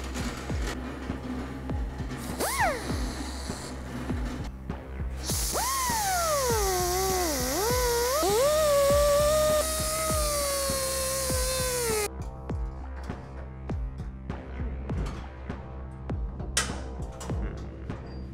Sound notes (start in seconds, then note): 5.2 cut off wheel sounds; 11.0 upbeat soft music